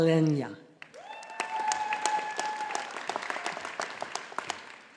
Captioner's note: audience applauding